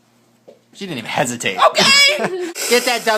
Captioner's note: laughs